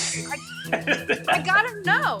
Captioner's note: laughs